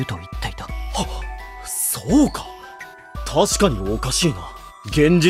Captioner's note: gasp